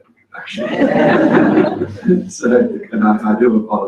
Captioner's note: laugh